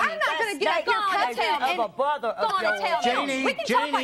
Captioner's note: indiscriminate yelling